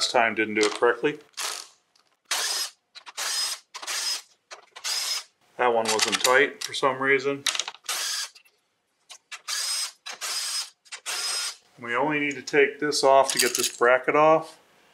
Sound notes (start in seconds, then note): 2.3 power tool noise; 8.5 power tool noise